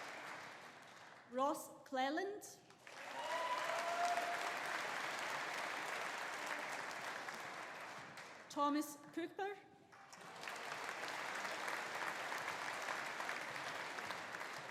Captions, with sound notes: Ross Cleland. (AUDIENCE APPLAUDING) (AUDIENCE CHEERING) Thomas Cooper. (AUDIENCE APPLAUDING)